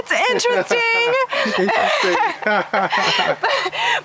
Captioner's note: laugh